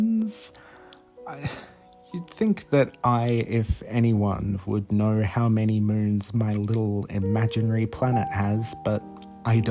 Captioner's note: small sigh